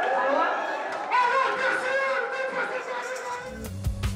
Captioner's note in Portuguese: gritos de carnaval